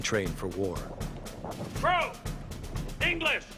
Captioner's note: voiceover